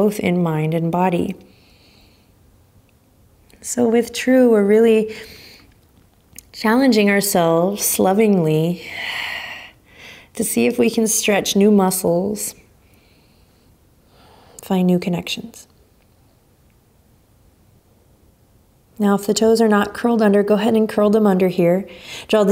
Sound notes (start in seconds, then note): 8.9 exhaling strongly